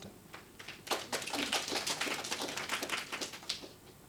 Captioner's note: applause